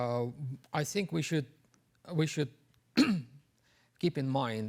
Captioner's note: clears throat